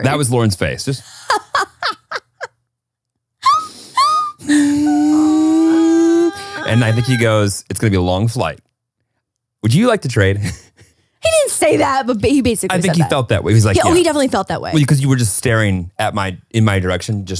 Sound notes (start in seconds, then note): 1.1 laughing; 10.9 laughs